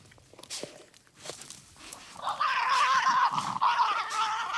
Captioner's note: growling